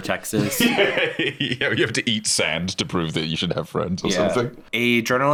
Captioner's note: laughs